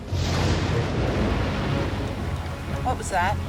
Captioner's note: thunder claps